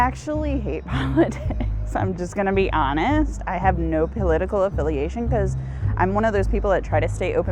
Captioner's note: laughs